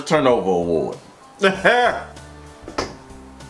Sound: scoff

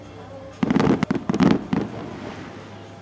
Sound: fireworks popping

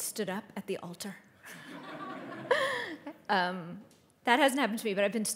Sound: audience applauding

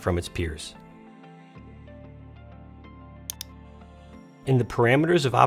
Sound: gentle instrumental music; mouse clicking

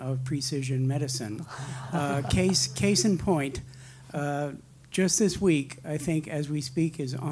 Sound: laugh

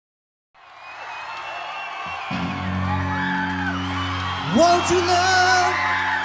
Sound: audience cheering

